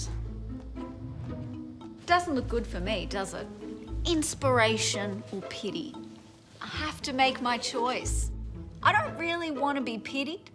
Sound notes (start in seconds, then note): 0.8 soft wind transition